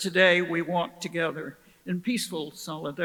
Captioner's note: none